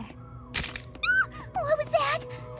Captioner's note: snap!